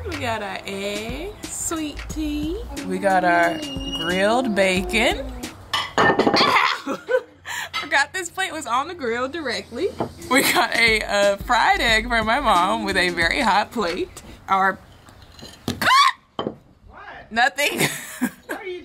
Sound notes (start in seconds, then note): 5.8 plate thuds on table; 6.3 chuckles; 15.4 biscuit bangs on the table; 15.8 shrieks; 17.8 chuckles